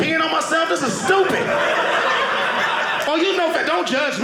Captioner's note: audience laughing